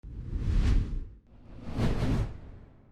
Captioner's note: whooshing